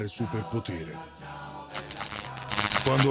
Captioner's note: electric shocks sounds